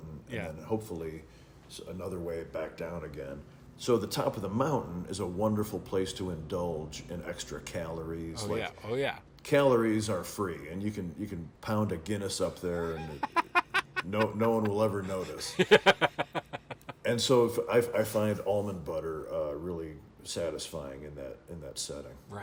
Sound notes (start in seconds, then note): 15.4 laughing